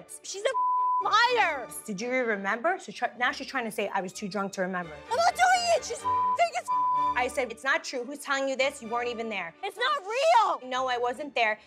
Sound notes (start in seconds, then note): 0.5 beep; 5.3 shouting; 6.0 beep